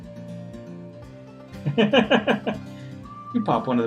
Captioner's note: laughs